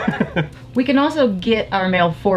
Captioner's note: laughing